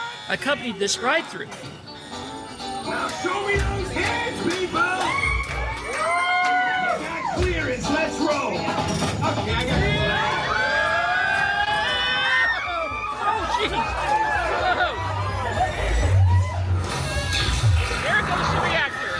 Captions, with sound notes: accompanied this ride through. Now show me those hands people! [guests cheering] ROCKET You got clearance. Let’s roll. [guests screaming] YOURS TRULY Oh, Jeez! Whoa ho! YOURS TRULY There goes the reactor!